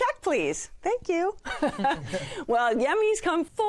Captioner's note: laughter